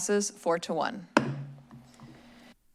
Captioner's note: gavel tap